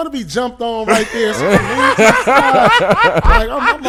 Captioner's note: laughing